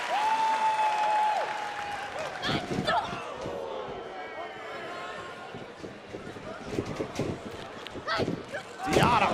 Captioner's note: cheers & applause